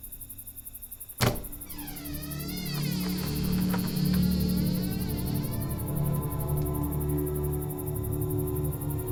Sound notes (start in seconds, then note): 1.2 door creaks